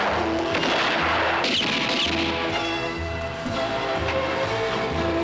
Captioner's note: gunshots; mysterious music